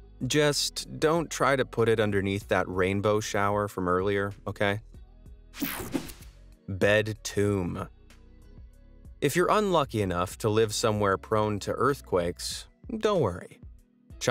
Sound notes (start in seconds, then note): 5.6 air whooshing; 6.7 upbeat music